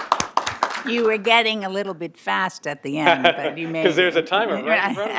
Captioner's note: applause